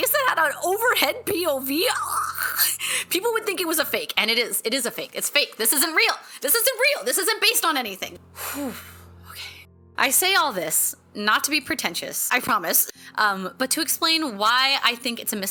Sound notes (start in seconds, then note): 8.3 deep calming breath